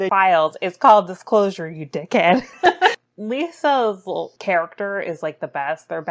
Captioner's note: laughs